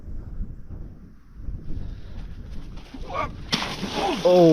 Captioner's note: wind whooshing; water splashing; groans